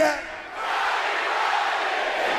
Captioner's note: speaking in foreign language